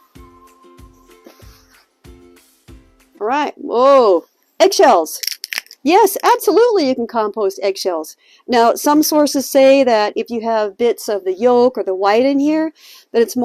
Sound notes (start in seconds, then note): 0.0 light music continues; 5.1 eggshell cracking